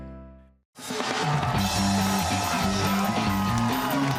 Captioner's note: cheers and applause